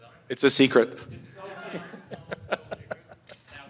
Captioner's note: laughter